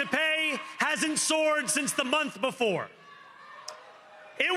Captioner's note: cheering